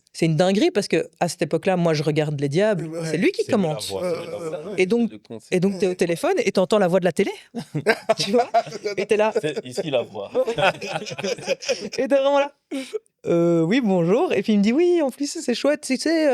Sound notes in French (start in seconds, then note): 7.5 rires